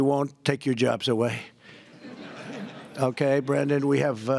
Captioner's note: laughter